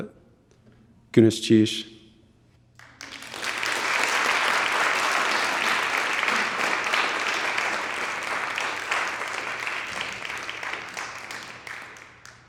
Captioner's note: audience clapping